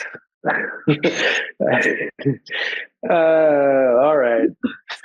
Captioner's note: panelist laughing